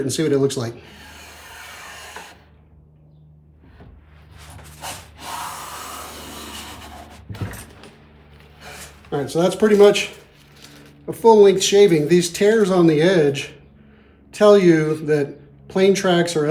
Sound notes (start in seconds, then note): 0.8 inhales deeply